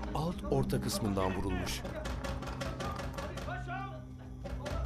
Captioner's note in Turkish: Kapı yumruklanma sesi